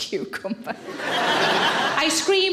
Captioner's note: audience laughing